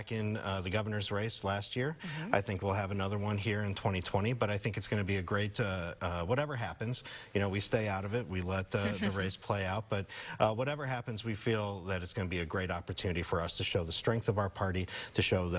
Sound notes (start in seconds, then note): 8.8 chuckling